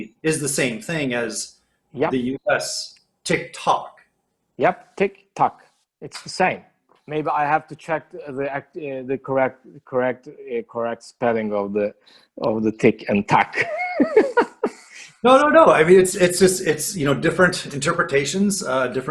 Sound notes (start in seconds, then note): 13.4 laughs